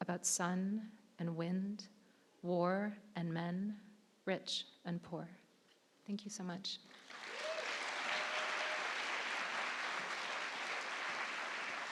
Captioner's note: applause